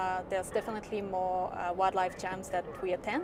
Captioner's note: none